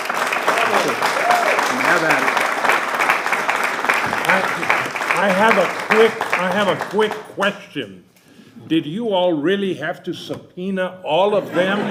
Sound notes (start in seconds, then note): 4.3 applause